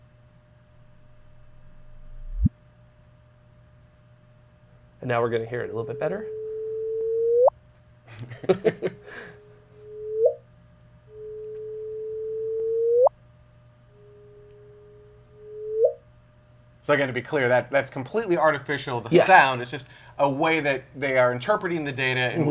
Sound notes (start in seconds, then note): 6.8 electronic rising tones; 8.0 laughter; 11.9 electronic rising tones